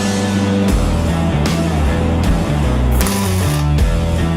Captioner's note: metal sparking